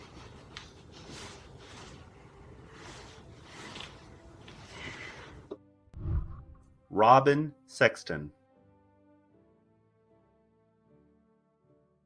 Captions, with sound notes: (whooshing) Robbin Sexton. (celebratory music)